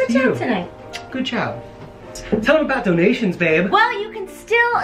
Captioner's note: kiss